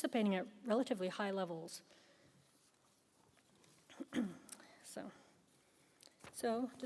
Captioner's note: clears throat